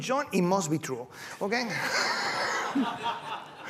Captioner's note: laughter